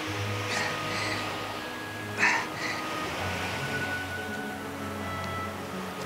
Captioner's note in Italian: Gemendo di dolore